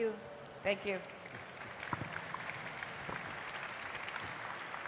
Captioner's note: applause